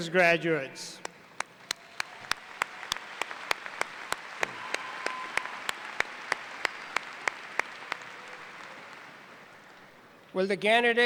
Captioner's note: applause